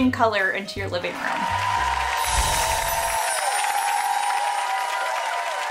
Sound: audience applauding

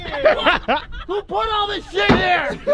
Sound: laughing

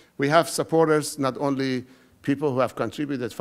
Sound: none

